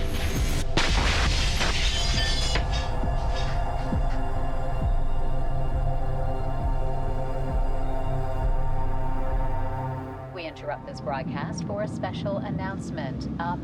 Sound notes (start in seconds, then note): 0.7 mirror breaking; 3.4 dramatic music